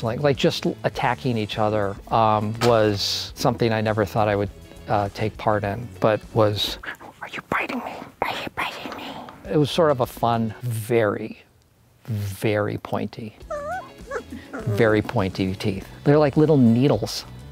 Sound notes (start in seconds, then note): 13.4 puppy squeaks